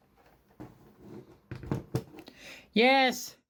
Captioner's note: laptop plops down on the table